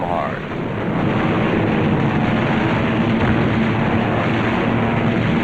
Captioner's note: rapid gunfire